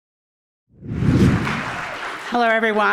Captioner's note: screen swooshes; audience applauding